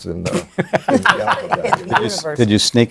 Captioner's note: laughter